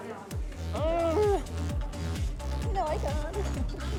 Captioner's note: strains; chuckles